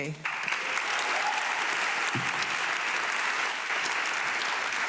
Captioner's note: audience clapping